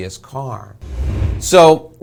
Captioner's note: air whooshing